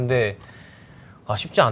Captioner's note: inhale